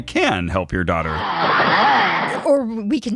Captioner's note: growling